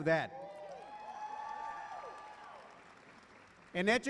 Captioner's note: cheering